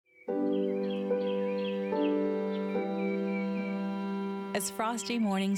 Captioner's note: birds chirping